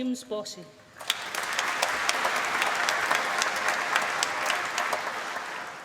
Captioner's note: applause